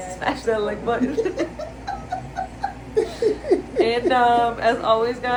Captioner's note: laughter